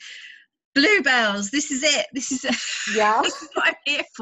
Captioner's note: laughs